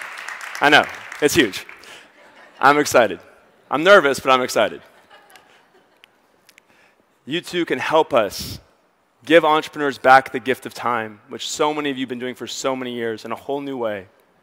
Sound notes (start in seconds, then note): 0.0 audience applauds and cheers; 4.6 audience members laugh